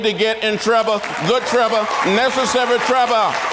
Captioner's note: audience claps and cheers